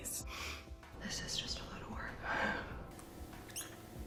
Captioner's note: whispering